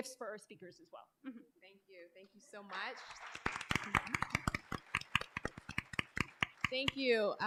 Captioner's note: applause